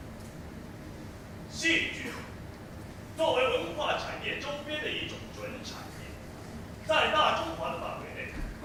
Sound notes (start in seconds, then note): 1.5 Mandarin